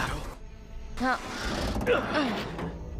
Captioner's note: groaning